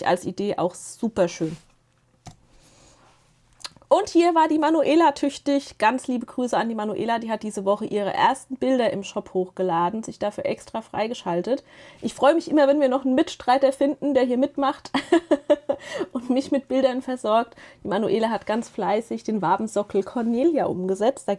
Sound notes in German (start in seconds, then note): 14.9 gelächter